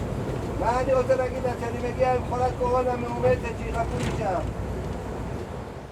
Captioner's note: speaking in foreign language